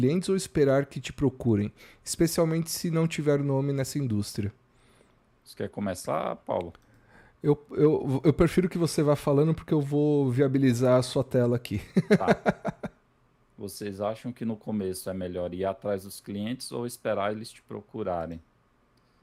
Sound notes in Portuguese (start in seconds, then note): 11.8 risadas